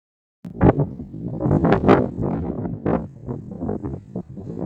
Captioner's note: blowing wind